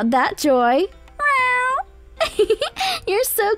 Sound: cat meowing; laughing softly

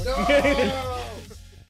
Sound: giggles

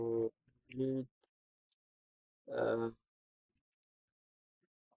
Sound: pause

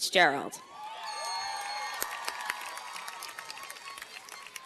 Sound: cheers and applause

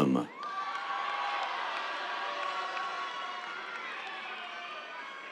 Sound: cheers, applause

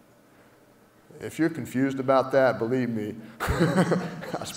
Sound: laugh

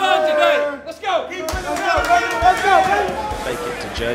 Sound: players cheering

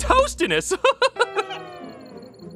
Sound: laughs

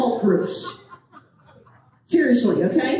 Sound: audience laughing

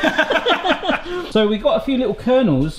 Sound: both laugh

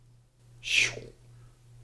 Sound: makes a sound effect that sounds like "shoom"

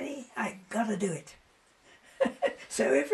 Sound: laughs

